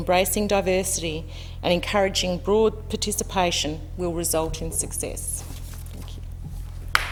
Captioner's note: applause